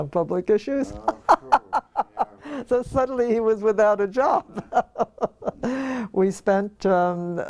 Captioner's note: laugh